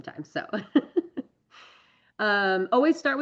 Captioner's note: laughs